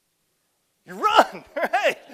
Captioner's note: laughs